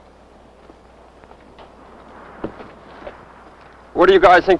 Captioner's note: footsteps